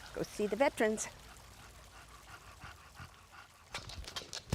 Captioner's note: dog panting